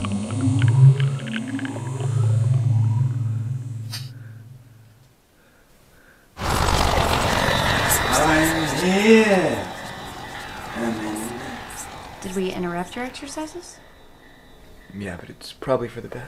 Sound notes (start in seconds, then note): 0.1 whispers; 6.6 fluttering noise